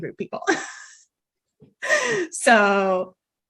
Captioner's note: laughing